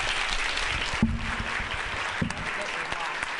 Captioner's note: applause